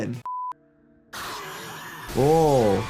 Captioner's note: people screaming